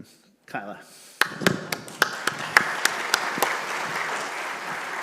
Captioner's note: all applaud